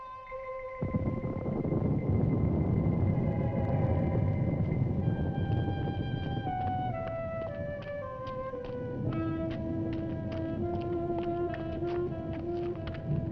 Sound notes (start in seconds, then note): 1.3 thunder rumbling